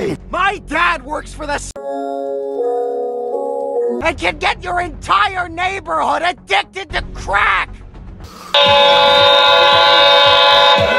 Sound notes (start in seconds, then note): 4.2 still Yelling